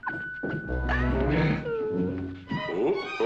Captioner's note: laughter